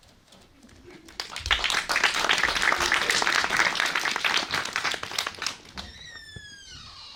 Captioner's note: applause